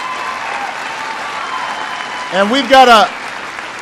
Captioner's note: applause